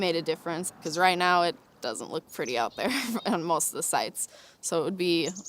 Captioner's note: laughs